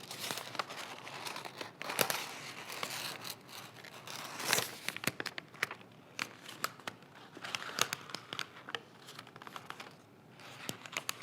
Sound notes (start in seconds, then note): 7.2 page crinkling